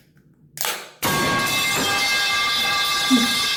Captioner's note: metal pipe sound effect